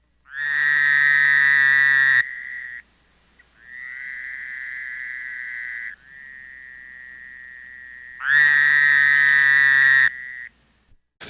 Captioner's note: Fowler's toad call